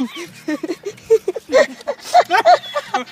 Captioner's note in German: Sie lachen